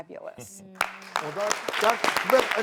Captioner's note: audience clapping